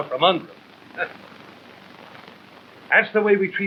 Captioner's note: laughs